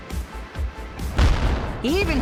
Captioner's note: explosions blasting